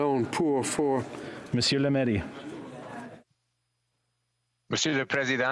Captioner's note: speaking French